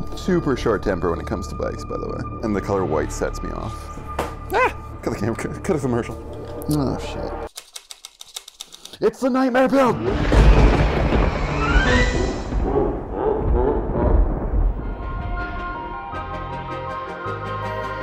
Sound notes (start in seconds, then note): 7.8 scraping; 9.9 thunder crashes; 10.1 spooky music; 12.7 monster laughs; 15.5 laid-back music